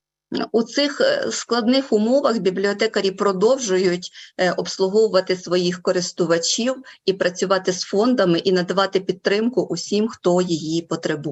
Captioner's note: foreign Language Spoken